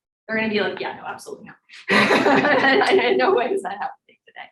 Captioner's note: laughing